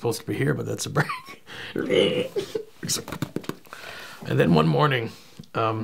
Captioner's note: makes screeching sound and then patting sound on chest